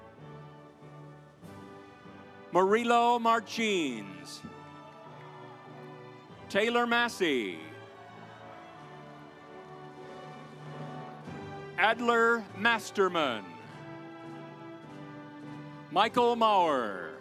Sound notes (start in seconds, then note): 4.3 audience applauds; 8.6 audience applauds; 13.8 stately music